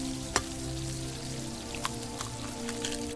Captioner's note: egg cracking